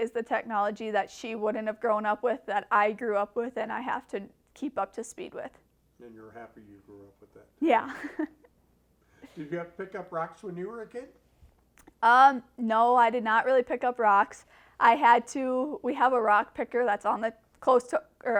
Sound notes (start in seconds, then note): 7.7 laughs